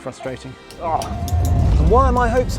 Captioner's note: person groaning in dismay